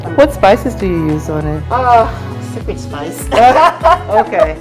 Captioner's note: laugh